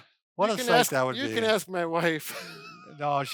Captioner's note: laughing